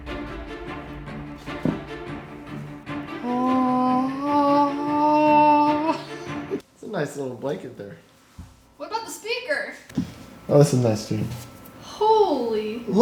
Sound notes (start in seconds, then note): 0.0 dramatic music; 6.0 laughing